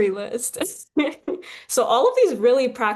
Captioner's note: chuckles